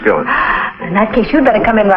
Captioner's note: gasps